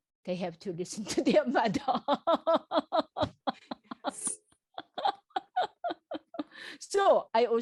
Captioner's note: laughs